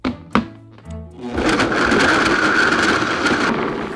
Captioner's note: blender running